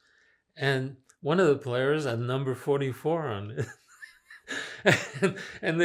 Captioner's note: laughing